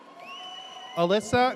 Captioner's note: audience cheers